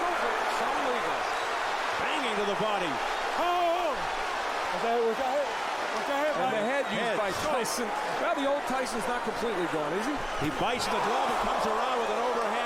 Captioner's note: applause